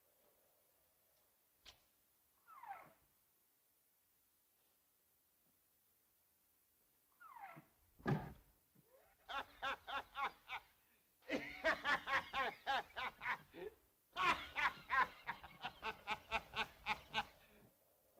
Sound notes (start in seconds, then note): 2.5 door creaks open; 8.0 door creaks shut; 9.2 Joss's laughter